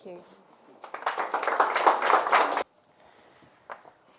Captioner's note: applause